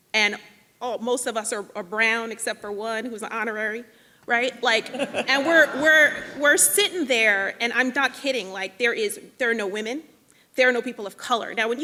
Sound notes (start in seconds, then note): 4.6 people laughing